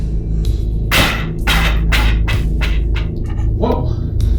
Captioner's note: coughs